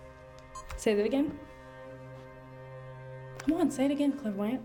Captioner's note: camera beeps